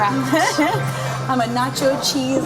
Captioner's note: laughing